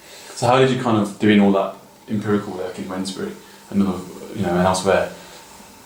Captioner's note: none